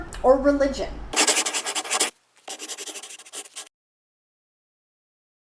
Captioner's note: scribbling